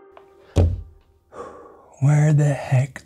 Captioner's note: sighs